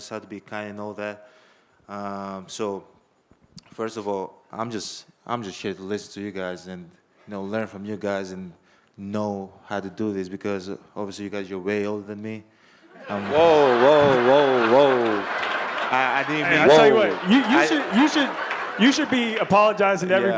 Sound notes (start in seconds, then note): 14.9 audience laughing